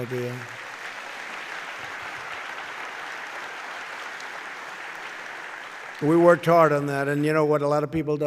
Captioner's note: applause